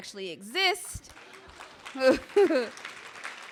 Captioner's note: clapping